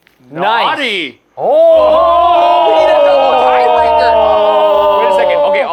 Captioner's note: group gasping